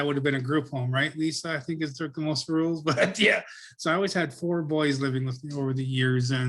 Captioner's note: laughs